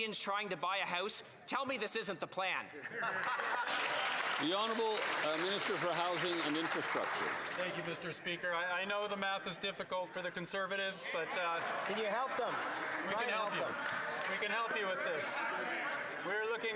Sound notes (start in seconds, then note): 8.6 some Applause